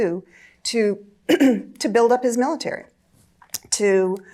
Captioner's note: clears throat